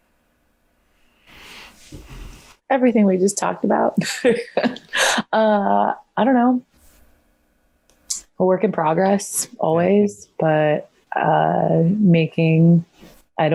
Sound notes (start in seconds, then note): 4.0 laughs